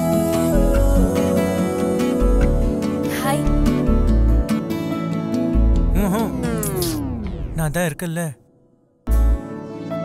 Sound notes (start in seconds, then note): none